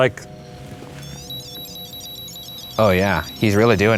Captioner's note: REM-Pod beeping